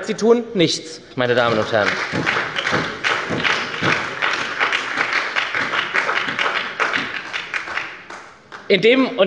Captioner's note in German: Beifall bei der SPD